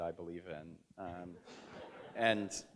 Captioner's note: audience chuckles